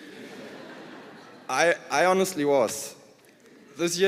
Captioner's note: laughter